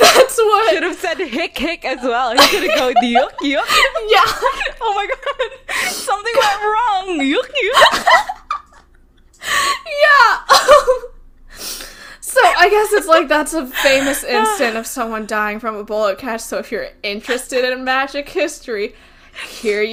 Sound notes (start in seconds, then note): 4.7 laughs; 9.0 laughing